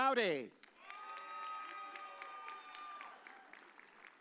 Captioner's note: audience cheers